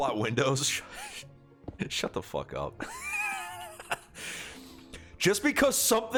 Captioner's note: laughs